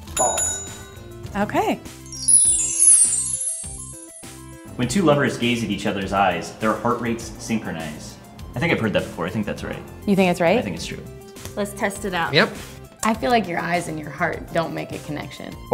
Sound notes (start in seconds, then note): 0.0 bell rings; 0.7 voiceover; 4.9 voiceover